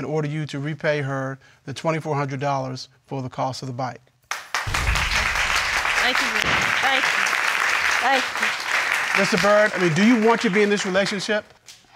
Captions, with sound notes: and order you to repay her the $2,400 for the cost of the bike. (AUDIENCE APPLAUDS) Thank you very much. Thank you. Thank you. Mr. Byrd, do you want to be in this relationship?